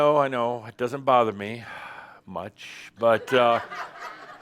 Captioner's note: more laughter